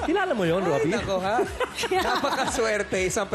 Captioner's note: laughter